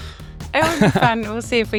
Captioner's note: laughs